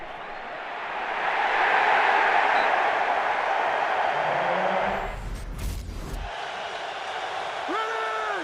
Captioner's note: crowd cheering